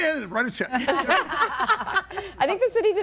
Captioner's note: everybody laughing